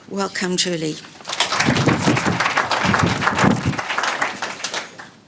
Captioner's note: audience applauding; mic whooshing; audience applauding